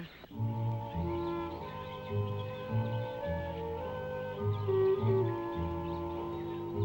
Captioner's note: birds chirping; gentle music